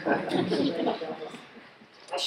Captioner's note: laughs